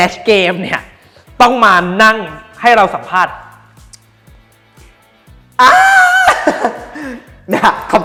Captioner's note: ahhhh